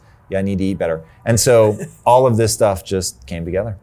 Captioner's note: chuckles